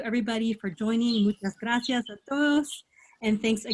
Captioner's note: spanish